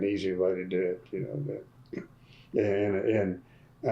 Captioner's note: laughs